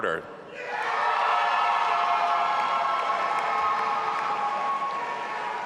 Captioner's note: audience applauding and cheering